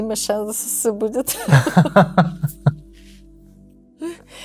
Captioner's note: laughter